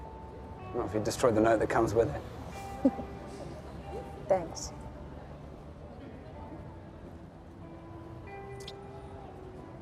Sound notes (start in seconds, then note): 2.6 laughing